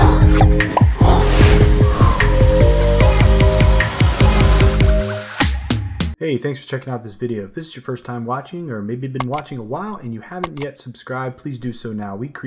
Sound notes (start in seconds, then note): 0.0 smooth music; 0.3 bubbles popping; 10.4 mouse clicking